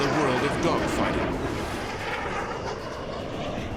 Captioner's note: jet engine noises